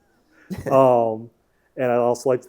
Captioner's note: laughing